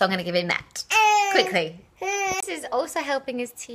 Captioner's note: baby fusses